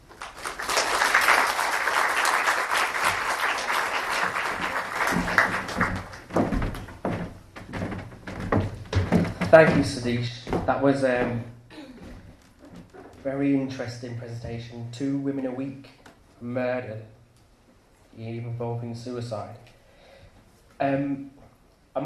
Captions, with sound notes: [Applause] Thank you Sahdaish. That was a very interesting presentation. Two women a week, murdered. Even involving suicide.